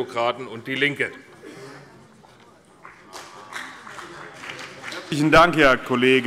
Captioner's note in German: Vereinzelter Beifall CDU und BÜNDNIS 90/DIE GRÜNEN